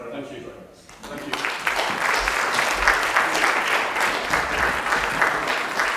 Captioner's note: applause